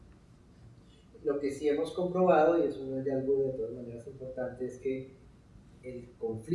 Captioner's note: speaking in Spanish